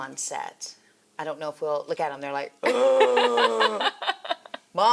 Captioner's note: croaks